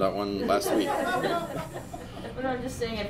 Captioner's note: audience laugh